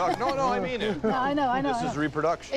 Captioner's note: laughs